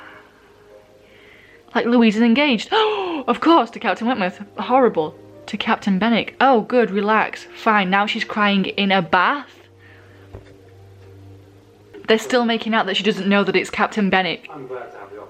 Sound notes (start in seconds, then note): 1.0 gasp